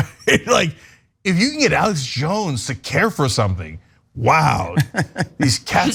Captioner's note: laugh